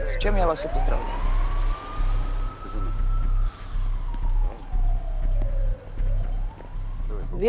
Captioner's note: police sirens